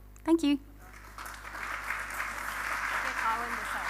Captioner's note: applause